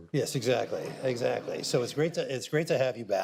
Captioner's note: audience laughter